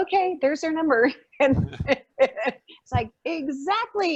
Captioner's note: laughing